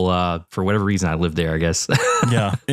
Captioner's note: laugh